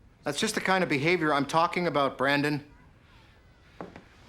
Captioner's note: none